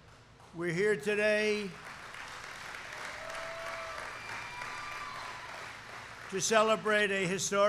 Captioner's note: applause